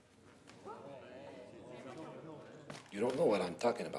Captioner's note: crowd murmurs